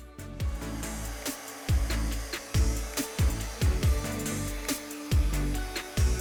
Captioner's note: bright music; blower hissing